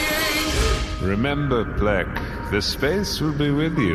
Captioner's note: flapping; echoing, as though he is speaking through the Space